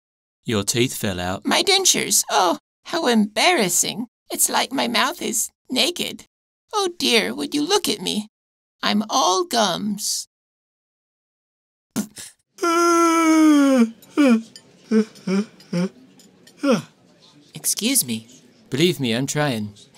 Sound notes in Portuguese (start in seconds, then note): 12.6 Bocejo alto